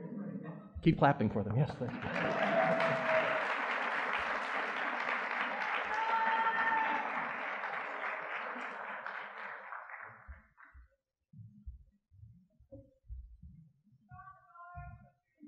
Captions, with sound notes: - Keep clapping for them, yes, thanks. (audience clapping)